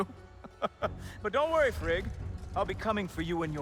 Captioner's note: laughs